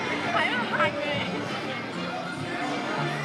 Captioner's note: laughs